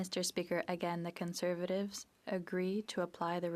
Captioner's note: speaking French